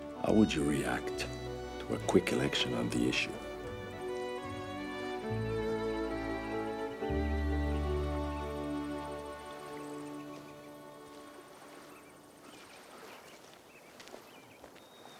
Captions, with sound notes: - How would you react to a quick election on the issue? (warm music continues) (birds chirping) (water sloshing)